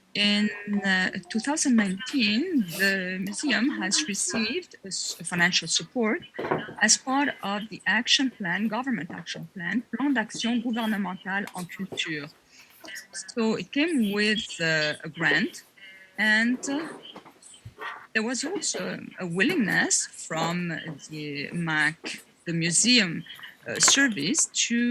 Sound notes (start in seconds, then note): 12.0 french